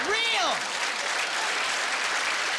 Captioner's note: applauding